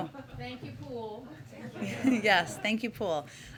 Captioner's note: laughter